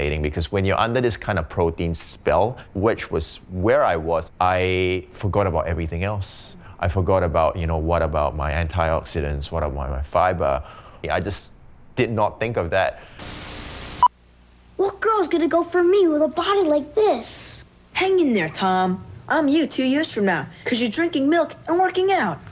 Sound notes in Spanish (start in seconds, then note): 13.2 TV estática; 13.2 pitido